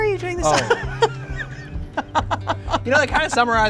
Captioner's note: laughs